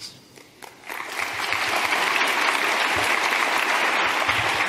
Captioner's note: crowd applauds